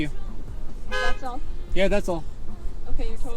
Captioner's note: honk